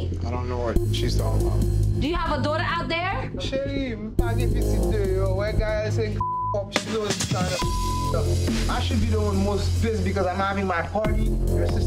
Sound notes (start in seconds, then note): 3.6 speaking in foreign language; 6.2 beep